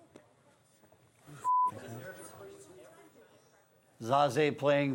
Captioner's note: beep